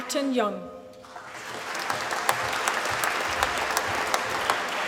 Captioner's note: applause